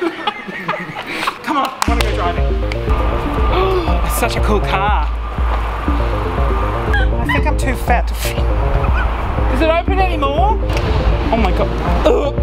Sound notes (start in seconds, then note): 0.0 everyone laughs; 2.9 upbeat electro music; 3.7 gasps